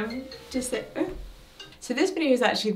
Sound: phone ringing

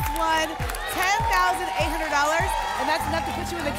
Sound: applause and cheering

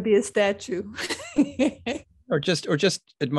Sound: laughs

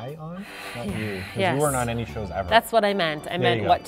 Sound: sighhh

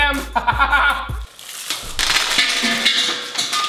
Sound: laughing

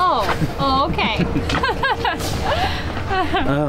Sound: emma giggles

